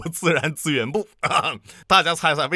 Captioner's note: cough